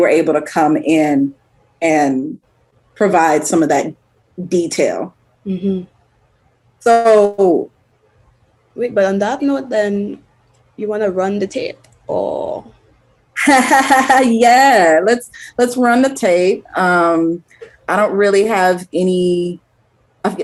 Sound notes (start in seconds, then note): 13.8 laughs